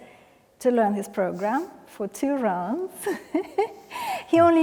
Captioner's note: laughs